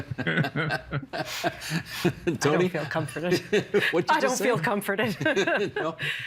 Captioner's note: laughing